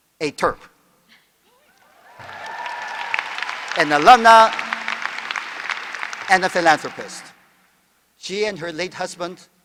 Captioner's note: applause